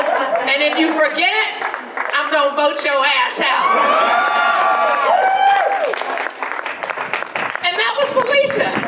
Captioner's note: audience laughter and applause